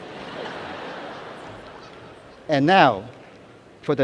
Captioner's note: laughter